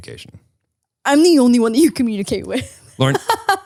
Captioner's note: laughs